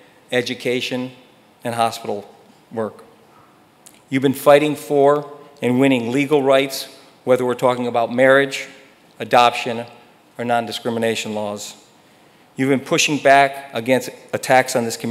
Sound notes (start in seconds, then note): none